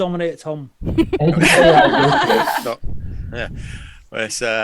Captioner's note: all laugh